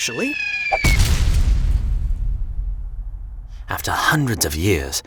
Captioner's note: wall thudding